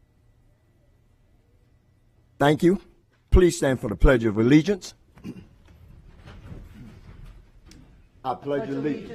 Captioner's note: moment of silence